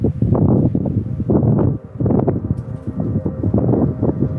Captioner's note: wind rustles